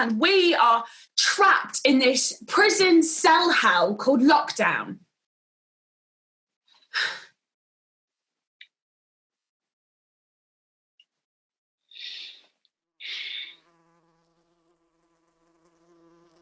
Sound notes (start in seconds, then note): 6.9 maybe exhales sharply; 13.0 dice sighs; 14.4 fly buzzes